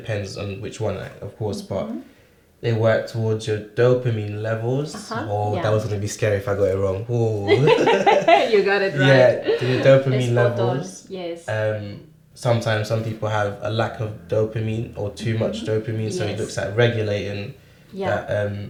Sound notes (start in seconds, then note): 7.4 both laugh